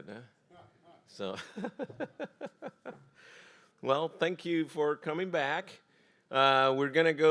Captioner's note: laughs